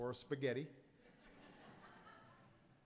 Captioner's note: laughter